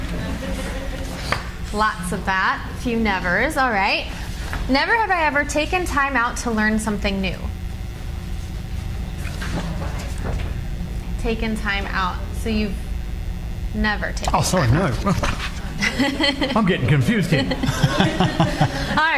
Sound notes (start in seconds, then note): 0.0 audience laughs; 9.4 cards flutter; 15.6 laughs; 18.5 laughs